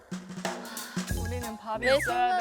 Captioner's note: sigh